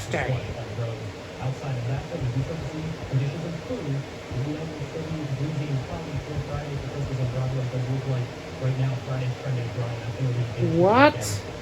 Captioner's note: "21Alive News at 4" plays in background